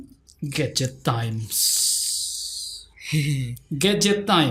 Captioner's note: chuckle